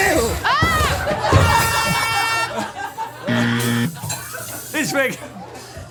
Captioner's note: buzzer horn